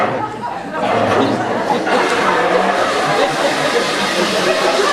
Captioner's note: ήχος από καζανάκι